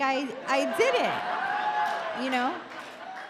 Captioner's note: audience cheer